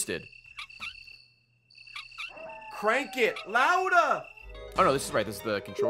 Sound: squeaky crank noises

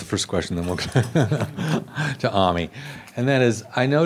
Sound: laughs

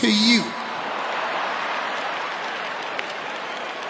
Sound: audience laughing

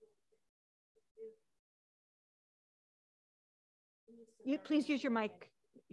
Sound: talking quietly off mic

